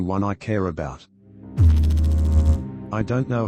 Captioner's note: electrical noise